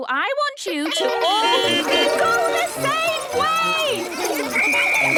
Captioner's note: beeping; whistle blowing